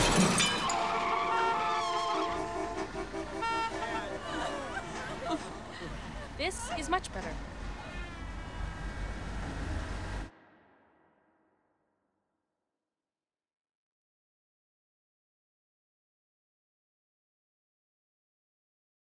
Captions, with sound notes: (crying) - This is much better.